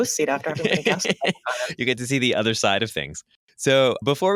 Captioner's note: laughs